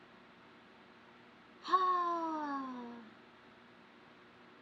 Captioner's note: sighs